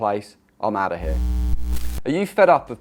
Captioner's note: screen buzzes